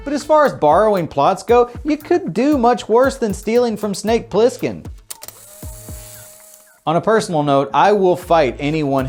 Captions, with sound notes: but as far as borrowing plots go, you could do much worse than stealing from Snake Plissken. (tape whirring) On a personal note, I will fight anyone